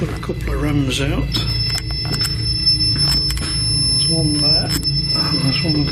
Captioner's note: REM pod beeping